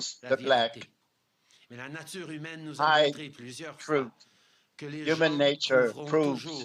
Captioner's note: speaking french